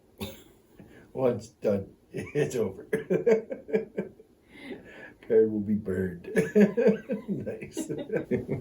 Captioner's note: laughters